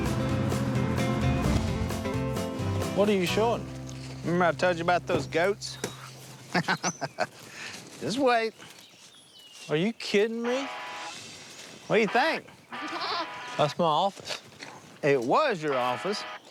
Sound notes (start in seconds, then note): 6.4 laughs